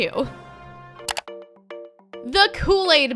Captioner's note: clicking